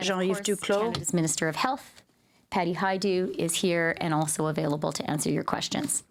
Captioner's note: speaking french